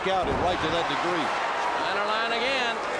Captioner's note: crowd cheering